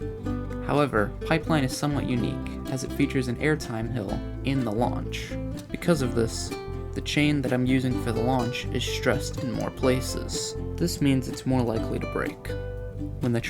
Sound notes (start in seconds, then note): none